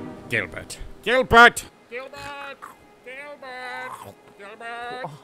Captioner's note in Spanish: gritando en la distancia